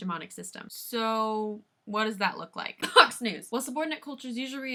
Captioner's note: cough